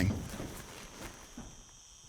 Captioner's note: laughs